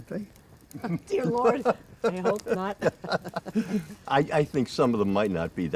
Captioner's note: Wilbert chuckling